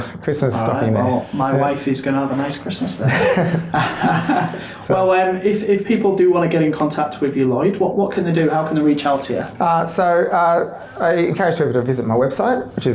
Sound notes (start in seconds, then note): 3.0 laughter